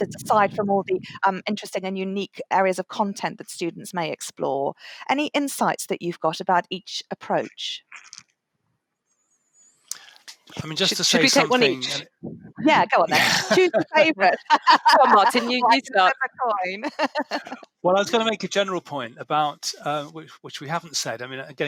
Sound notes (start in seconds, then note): 12.9 laughter